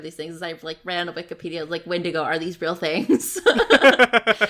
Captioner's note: laughs